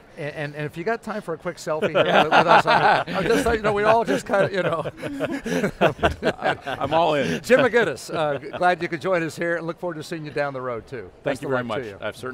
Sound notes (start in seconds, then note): 1.8 all laughing